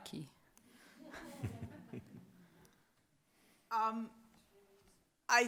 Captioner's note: audience members laugh